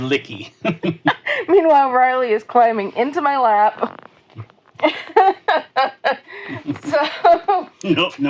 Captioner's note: laughing